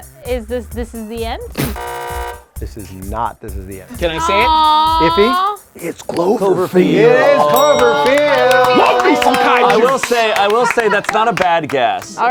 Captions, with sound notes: - Is this This is the End? (loud buzzer) - This is not This is the End. - Can I say it? - Ify? - It's Cloverfield. - It is Cloverfield! (all cheering) - I will say that's not a bad guess.